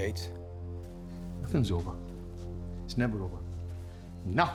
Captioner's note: scottish accent